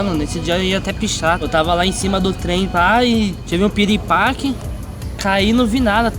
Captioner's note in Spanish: en español